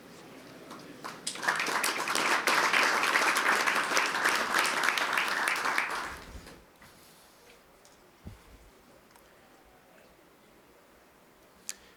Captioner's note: applause